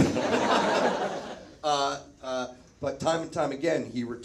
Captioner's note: audience laughs